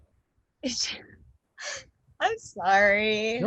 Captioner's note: laughs